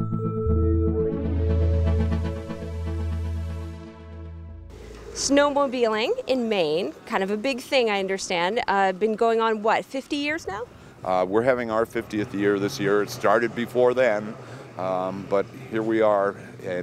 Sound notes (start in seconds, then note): 1.1 peaceful chiming